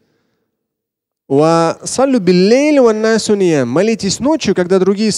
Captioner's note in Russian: Говорит на арабском